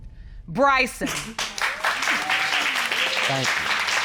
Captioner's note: audience applauding